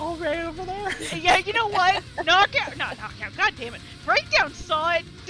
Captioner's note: laughs